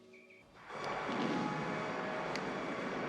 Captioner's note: drive-in movie playing